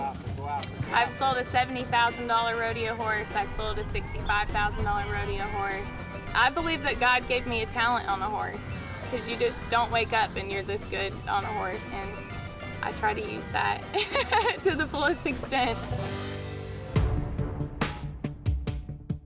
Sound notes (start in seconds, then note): 13.8 giggling